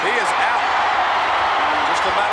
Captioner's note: audience cheers